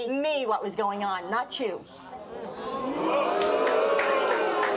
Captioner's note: audience oohing